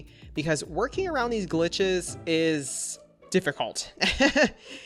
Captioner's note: laughs